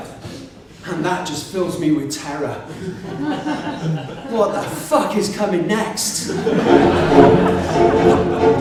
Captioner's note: laughter